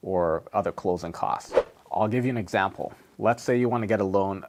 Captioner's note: air whooshes